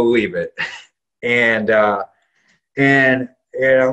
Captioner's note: laughs